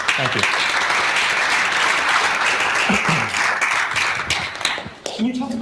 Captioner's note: audience applauding